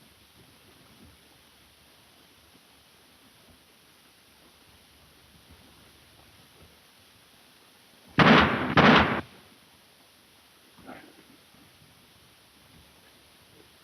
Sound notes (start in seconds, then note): 8.1 gunshots crack; 10.8 Raymond grunts